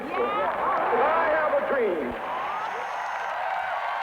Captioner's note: crowd cheering